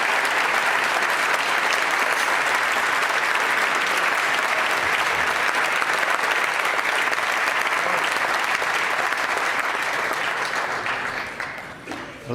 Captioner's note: applause